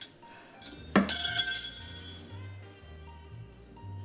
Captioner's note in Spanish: Ruido de cubiertos